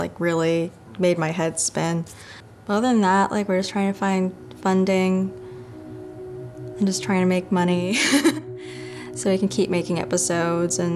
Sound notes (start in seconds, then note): 8.6 laughs